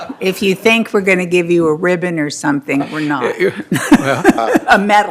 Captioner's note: laughter